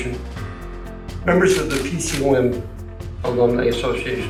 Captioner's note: camera flashing